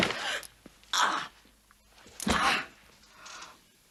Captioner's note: groans